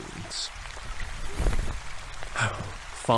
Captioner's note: dismissive rustle; exasperated sigh